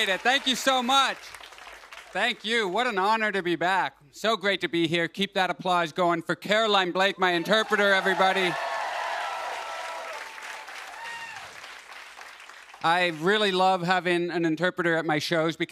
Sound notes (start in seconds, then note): 7.3 cheers and applause